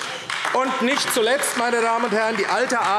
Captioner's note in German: Beifall AfD